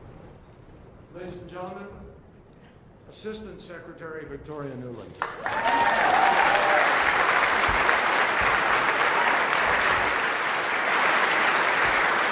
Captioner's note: applause and cheers